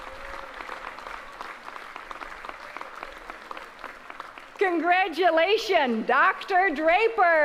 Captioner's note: applause